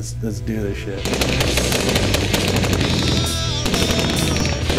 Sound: bullets firing

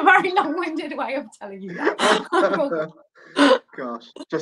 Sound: laughing

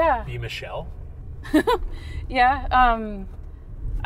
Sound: laughs

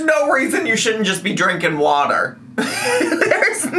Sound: laughs

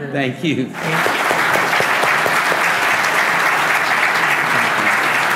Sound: audience applauding

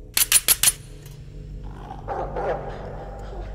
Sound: knives clicking; dog barking

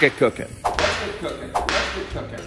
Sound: whip cracking

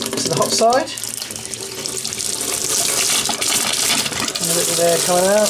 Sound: running water

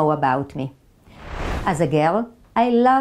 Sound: slide whooshes

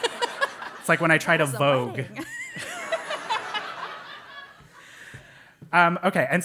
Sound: laugh

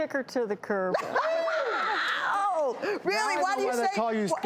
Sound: panel laughing

